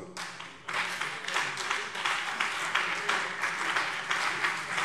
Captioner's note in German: Beifall BÜNDNIS 90/DIE GRÜNEN und CDU